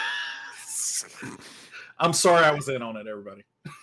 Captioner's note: everyone chuckles